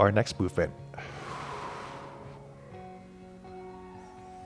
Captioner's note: exhaling; calm music